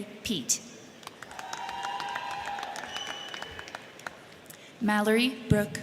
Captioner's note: crowd clapping; crowd cheering